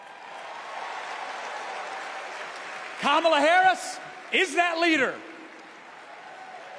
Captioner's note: applause